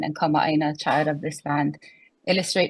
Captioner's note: speaks foreign language